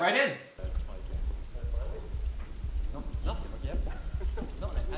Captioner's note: background chatter